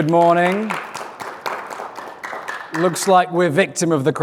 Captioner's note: applause